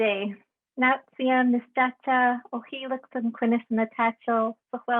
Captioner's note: speaking native language